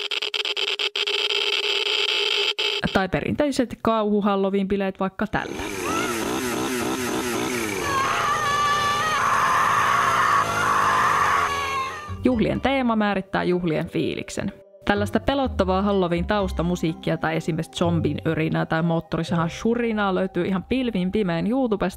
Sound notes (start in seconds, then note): 5.4 screams and chainsaw noises